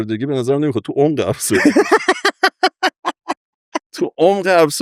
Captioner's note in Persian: خنده